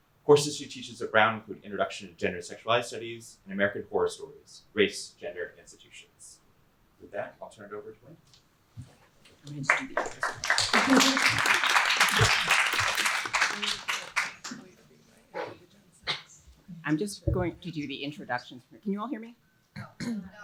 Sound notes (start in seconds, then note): 9.5 applause